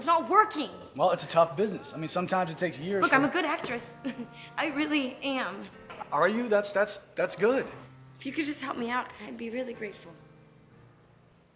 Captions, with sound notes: It's not working. - Well, it's a tough business. I mean, sometimes it takes years. - Look, I'm a good actress. (chuckles) I really am. - Are you? That's that's, that's good. - If you could just help me out, I'd be really grateful.